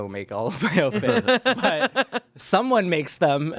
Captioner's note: everyone laughs